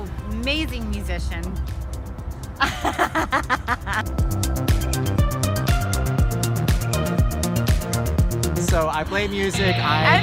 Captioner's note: laughs